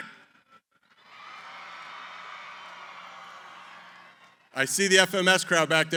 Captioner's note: cheering